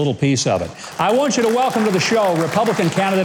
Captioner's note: applause